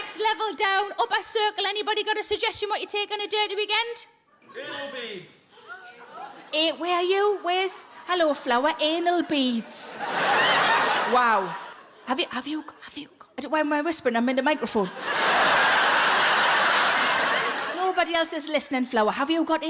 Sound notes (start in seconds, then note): 6.0 audience gasp; 10.3 audience laughs; 14.8 audience laughs